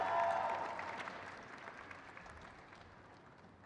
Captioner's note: crowd cheers